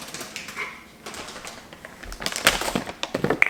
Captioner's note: bags rustling